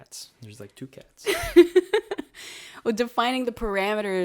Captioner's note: laughs